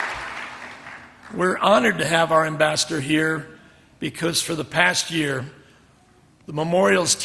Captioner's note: applause